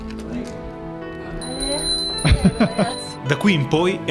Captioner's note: tinkling